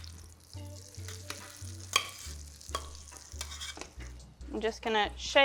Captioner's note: potatoes sizzling